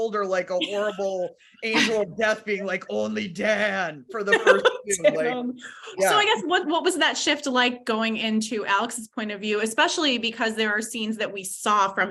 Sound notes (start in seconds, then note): 5.6 laughs